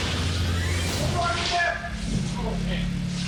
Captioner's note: man yelling indistinctly